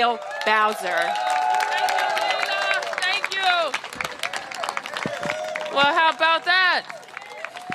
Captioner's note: cheers and applause